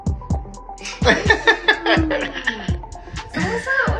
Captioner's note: group laughing